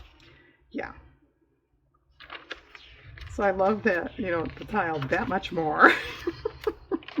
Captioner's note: laughs